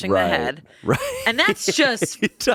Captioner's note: laughs